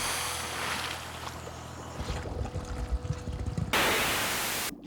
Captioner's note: <i> air hissing</i>